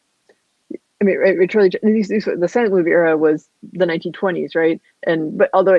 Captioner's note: voice muffled